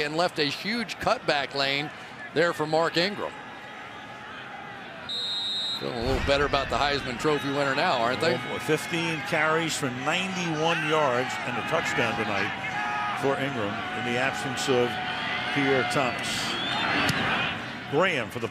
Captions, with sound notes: out of the way and left a huge cutback lane there for Mark Ingram. [whistles] Feeling a little better about the Heisman Trophy winner now, aren't they? 15 carries for 91 yards and a touchdown tonight for Ingram in the absence of Pierre Thomas.